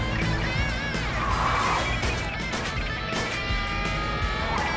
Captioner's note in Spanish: Disparos